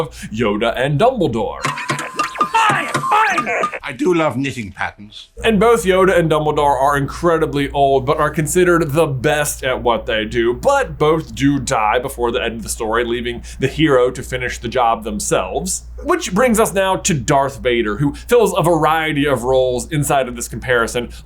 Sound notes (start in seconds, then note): 1.6 R2 beepity beeps; 1.6 thunk thunk